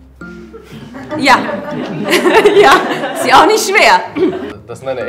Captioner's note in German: lachend